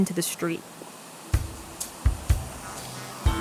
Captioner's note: whoosh of water flowing